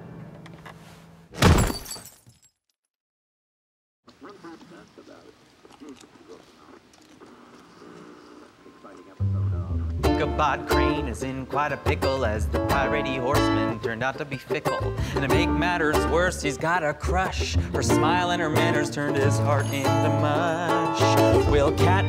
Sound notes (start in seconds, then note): 1.3 thud; 4.1 strange radio sounds; 5.6 crunching